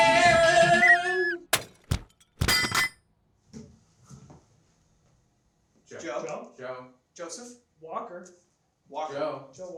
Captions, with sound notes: (glass breaks) - Joe! - Joe! - Joseph walker. - Walker? - Joe.